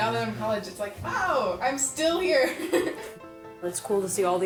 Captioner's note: laughs